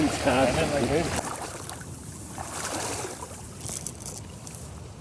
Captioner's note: water splashing